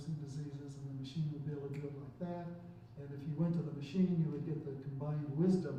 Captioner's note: snaps fingers